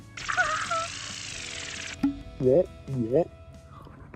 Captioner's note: sound Effects